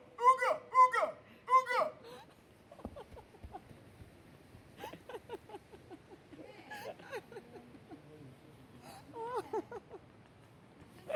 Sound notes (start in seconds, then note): 4.8 laughter